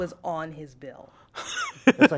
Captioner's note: laughter